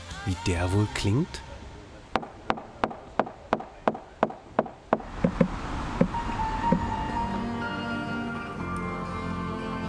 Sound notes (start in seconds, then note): 2.1 dull knocking; 8.0 gentle music